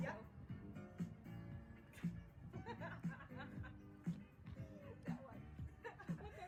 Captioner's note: laughing